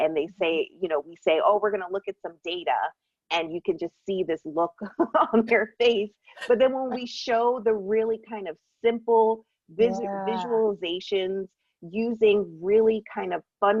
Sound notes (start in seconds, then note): 5.9 laughs